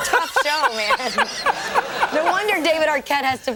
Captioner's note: O'Brien laughing